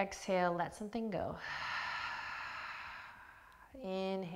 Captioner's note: exhaling